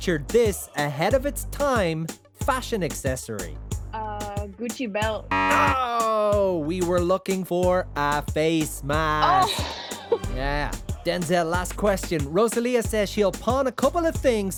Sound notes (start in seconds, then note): 9.2 laughs